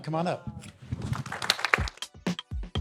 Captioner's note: applause